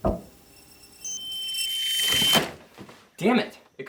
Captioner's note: electronic screeching